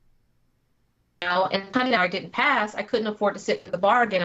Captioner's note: technical interference